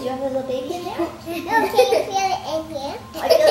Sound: laughs

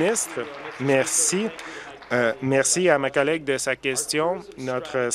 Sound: applause

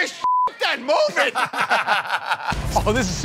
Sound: laughter

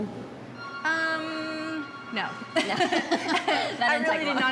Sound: both laughing

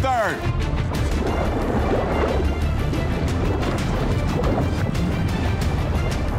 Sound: urgent music; water gurgling

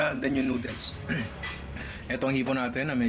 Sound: clears throat

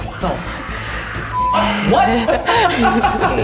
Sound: beep; laughs

